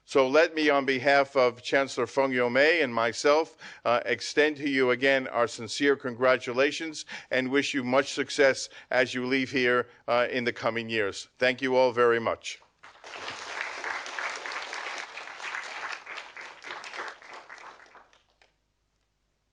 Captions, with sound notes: So let me, on behalf of Chancellor Feng Youmei and myself extend to you again our sincere congratulations and wish you much success as you leave here in the coming years. Thank you all very much. (audience applauding)